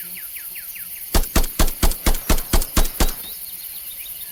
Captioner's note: gun blasting